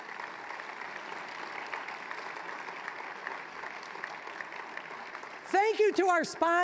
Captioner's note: applause